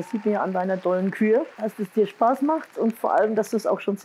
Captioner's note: applause